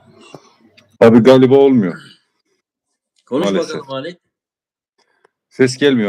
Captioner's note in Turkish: boğazını temizler